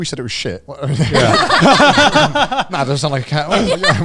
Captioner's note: everyone laughing